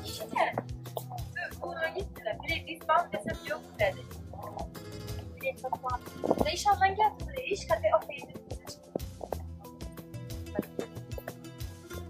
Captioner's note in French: conversation en Ouzbek entre deux femmes en fond sonore